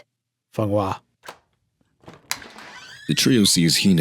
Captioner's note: door opens